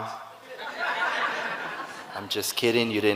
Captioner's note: audience laughing